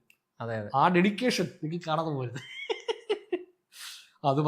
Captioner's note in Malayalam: പൊട്ടിച്ചിരി